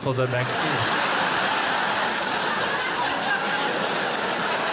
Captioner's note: audience laughing